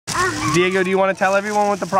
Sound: voiceover

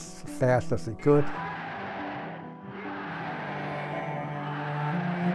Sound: crowd shouting

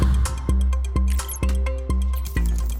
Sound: beeping

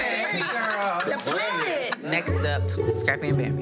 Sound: hands clapping

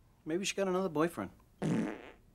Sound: farting

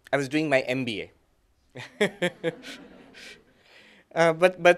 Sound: laughter

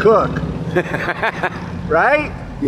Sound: laughing

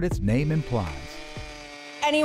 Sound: drill whirring

